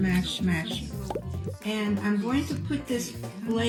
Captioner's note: bubble popping